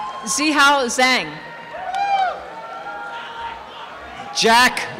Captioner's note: cheering and applause